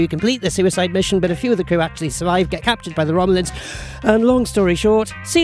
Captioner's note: breathes